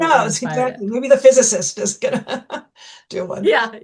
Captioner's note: laughs